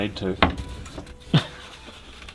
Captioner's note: tapping; laughs